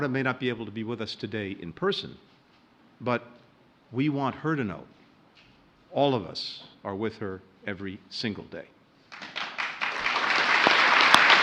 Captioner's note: applause